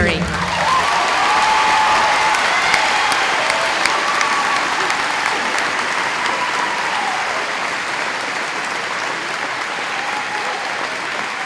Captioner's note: applause